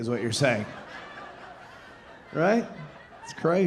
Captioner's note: audience laughing